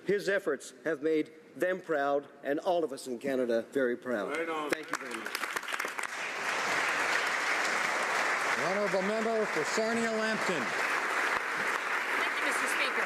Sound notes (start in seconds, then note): 9.9 applause